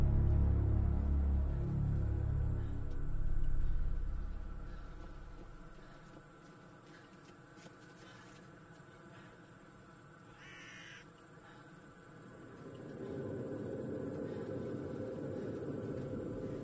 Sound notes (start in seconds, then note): 2.3 panting